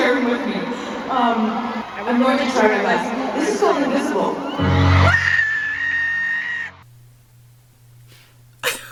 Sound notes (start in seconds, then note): 4.4 alarming screaming